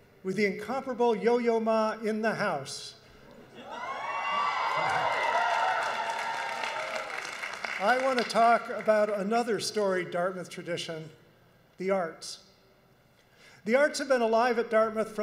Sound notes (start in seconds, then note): 3.5 audience cheers; 3.7 audience applauds